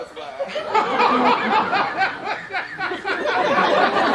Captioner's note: Don Pedro laughs